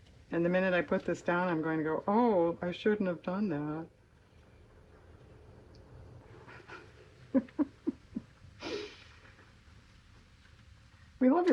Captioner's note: laughs